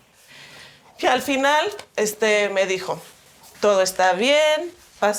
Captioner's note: speaking in Spanish